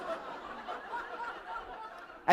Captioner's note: laughter